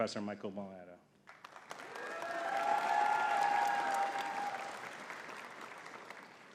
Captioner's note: audience cheering and clapping